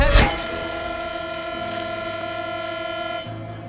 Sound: horn blares

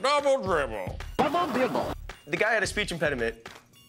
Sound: mimics computer

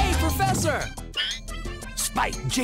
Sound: Screech

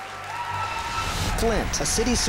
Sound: applause

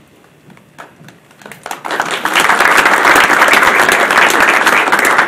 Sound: audience applauding

